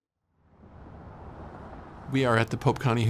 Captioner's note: traffic whooshing